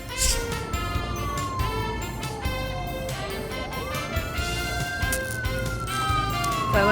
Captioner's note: sirens